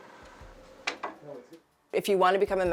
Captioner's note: tool clattering